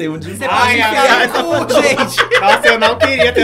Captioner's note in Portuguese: risos